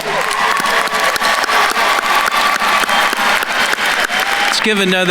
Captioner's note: attendees cheering and applauding